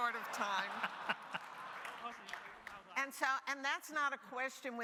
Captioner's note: audience laughing